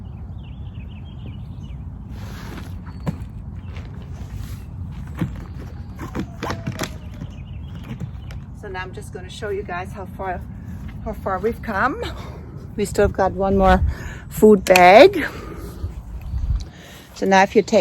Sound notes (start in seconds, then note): 0.3 birds chirping; 5.6 items bumping